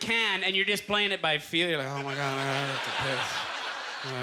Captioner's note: mumbling